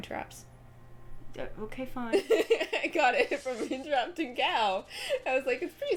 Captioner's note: laughing